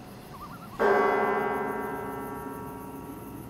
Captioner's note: bells ringing